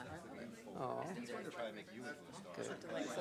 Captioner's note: background chatter